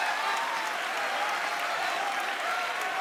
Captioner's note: audience cheering and applause